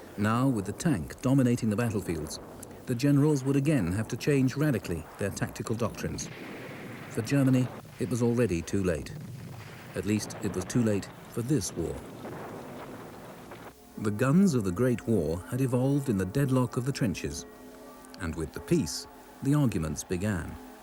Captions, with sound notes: Now with the tank dominating the battlefields, the generals would again have to change radically their tactical doctrines. For Germany, it was already too late. (shell booms) At least, it was too late for this war. (cannon blasts) The guns of the Great War had evolved in the deadlock of the trenches, and with the peace, the arguments began.